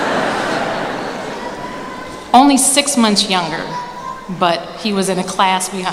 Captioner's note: laughter